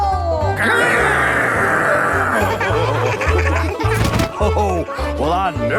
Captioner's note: laughing